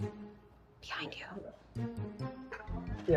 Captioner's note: whispering